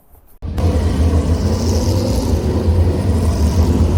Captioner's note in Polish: warkot silników